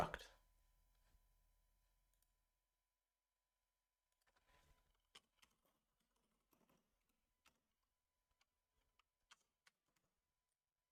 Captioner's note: silence